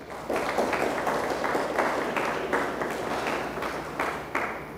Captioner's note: audience applauds